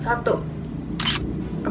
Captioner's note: camera shutter sound